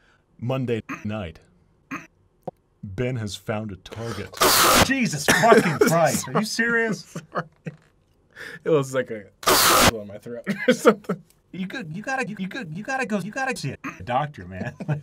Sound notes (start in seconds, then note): 5.2 cough; 6.9 laughing; 9.7 cough